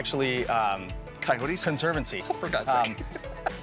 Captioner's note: giggles